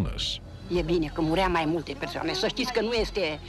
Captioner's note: woman speaking Romanian